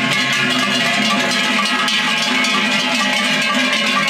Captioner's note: cowbells